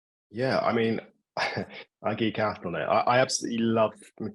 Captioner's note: chuckling